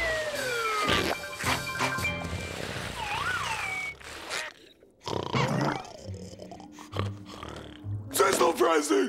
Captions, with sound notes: [snoring] Cecil dressing.